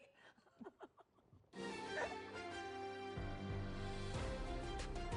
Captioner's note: laughter